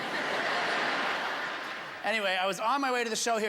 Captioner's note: laughter